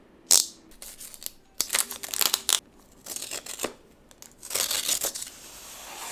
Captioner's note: package ripping and crinkling